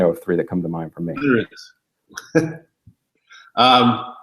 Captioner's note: chuckles